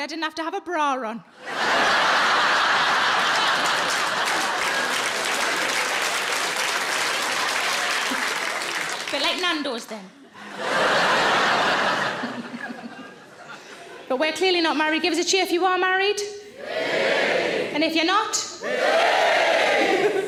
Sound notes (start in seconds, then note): 1.4 audience laughs and applauds; 10.3 audience laughs; 10.4 laughs